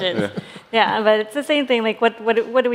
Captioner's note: laughter